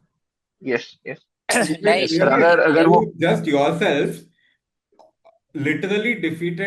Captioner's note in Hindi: गला साफ़ करने की आवाज़